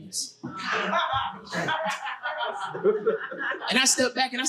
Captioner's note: audience laughing